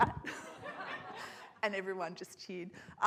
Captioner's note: audience laughs